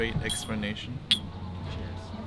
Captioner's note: cups clanking